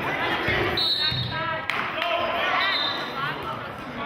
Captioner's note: whistling